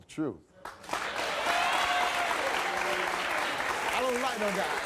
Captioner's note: audience applauds